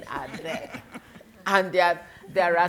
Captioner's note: attendants laughing